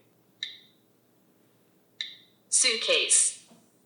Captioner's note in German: Sprecher klickt